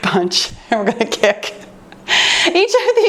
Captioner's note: laughs